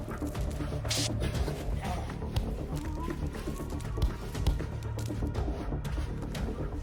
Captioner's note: intense techno music; muffled coughing, gasps